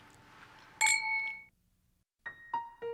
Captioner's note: clink; bright piano music